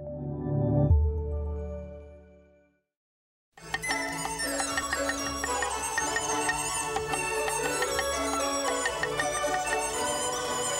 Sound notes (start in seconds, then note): 3.6 joyful music; 3.7 cleaver chopping